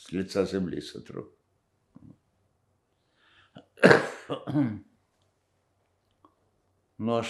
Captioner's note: coughing